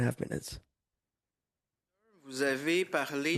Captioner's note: speaking French